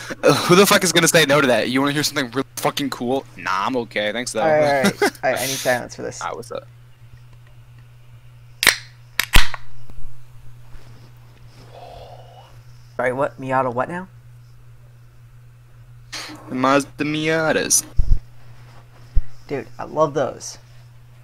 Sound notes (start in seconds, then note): 4.6 chuckles; 11.6 quiet, satisfied sigh